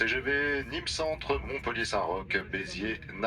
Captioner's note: train announcement in French